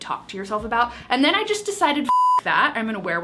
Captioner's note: beep